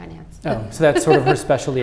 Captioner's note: laughing